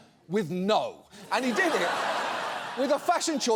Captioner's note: audience laughs